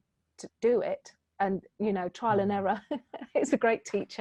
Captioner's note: laughing